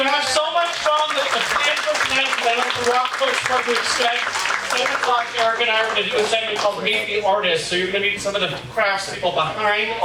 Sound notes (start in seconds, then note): 3.6 audience applauding